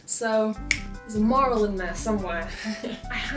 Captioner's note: laughs